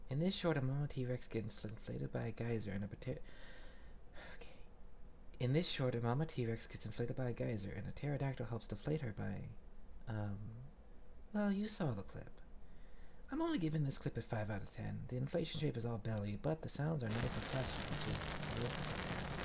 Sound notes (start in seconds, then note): 3.3 vellumental sigh